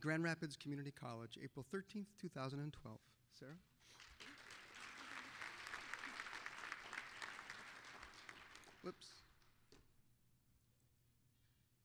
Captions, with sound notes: AT GRAND RAPIDS COMMUNITY COLLEGE APRIL 13th, 2012. SARAH. (applause) WHOOPS.